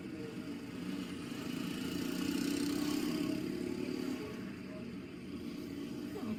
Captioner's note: traffic noise